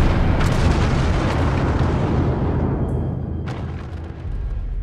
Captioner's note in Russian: выстрел, взрыв